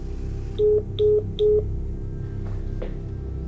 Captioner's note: dial tone